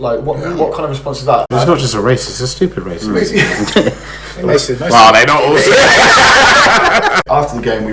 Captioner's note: laughs